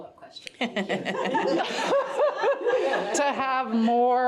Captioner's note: all laughing